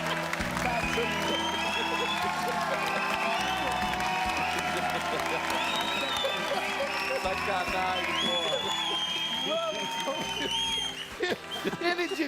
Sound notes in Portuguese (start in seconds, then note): 3.4 aplausos; 9.5 risos